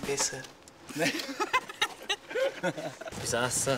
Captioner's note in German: lacht